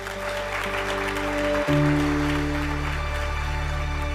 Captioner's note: audience clapping